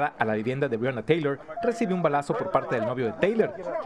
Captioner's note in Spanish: HABLA EN INGLéS